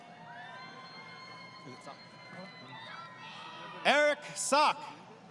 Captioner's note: crowd Cheering